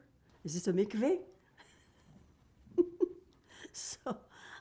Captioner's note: laughing